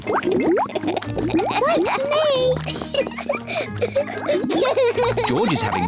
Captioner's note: laughs; both laugh